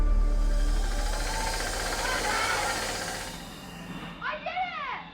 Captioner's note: mixer whirrs